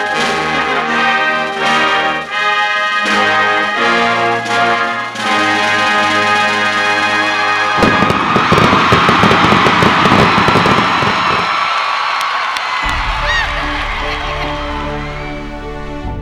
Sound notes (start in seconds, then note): 7.9 cheering; 12.8 upbeat music